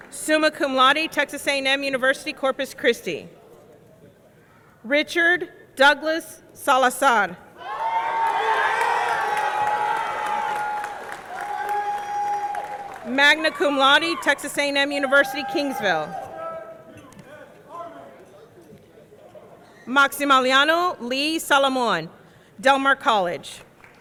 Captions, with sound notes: Summa cum laude, Texas A&M University Corpus Christi. Richard Douglas Salazar. (audience cheering) (audience clapping) Magna Cum Laude, Texas A&M University, Kingsville. Maximiliano Lee Solomon, Del Mar College.